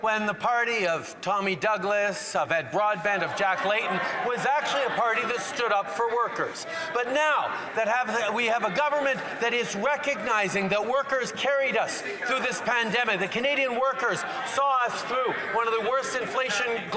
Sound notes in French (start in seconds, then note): 3.8 voix de l'interprète